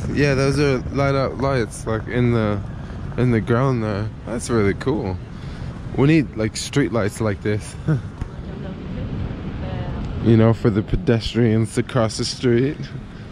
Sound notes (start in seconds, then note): 7.8 laughs